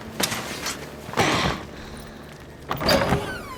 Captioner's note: groan; door squeaks